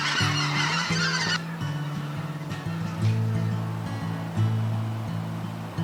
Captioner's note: the sound of migratory birds flying